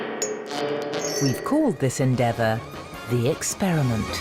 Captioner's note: voiceover